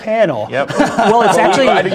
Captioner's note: laugh